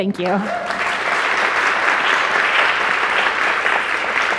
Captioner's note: audience clapping